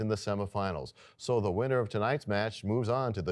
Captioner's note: none